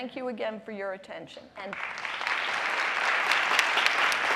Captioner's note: applause